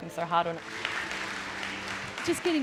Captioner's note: applause